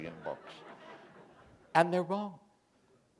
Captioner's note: laughter